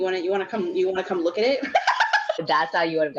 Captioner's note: laughs